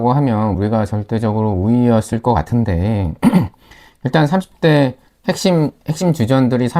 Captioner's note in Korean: 목을 가다듬음